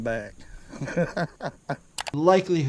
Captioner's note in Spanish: clic; el pescador se ríe